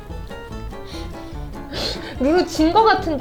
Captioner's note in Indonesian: tertawa